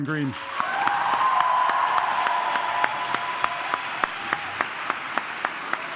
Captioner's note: audience clapping and cheering